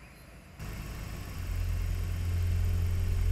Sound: car engine

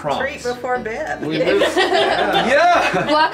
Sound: laughing

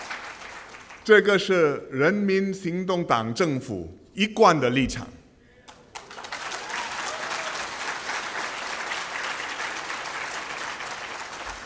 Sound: 掌声; 掌声

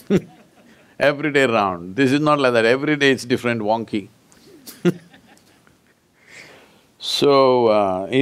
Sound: laughs; laughs

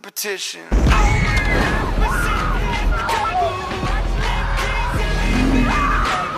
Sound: screaming; engine rumbles

